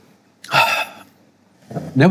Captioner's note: exhales deeply